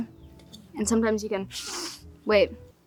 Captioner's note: inhales deeply